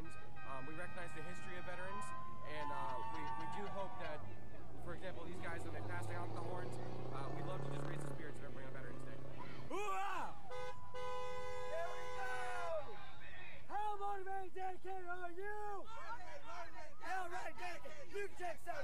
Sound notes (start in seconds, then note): 10.4 car honking; 15.7 cadets chanting